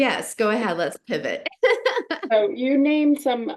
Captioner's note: laughing